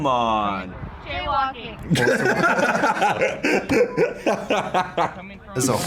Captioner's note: both laugh